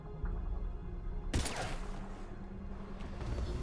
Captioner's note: bang